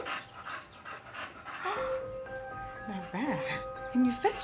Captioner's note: Beth gasps